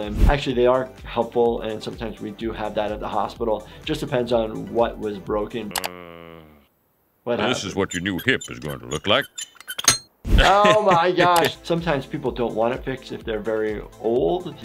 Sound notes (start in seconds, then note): 9.7 metal creaks